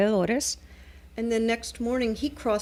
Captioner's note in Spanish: Hablando ingl\s